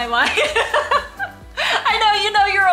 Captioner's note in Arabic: تضحك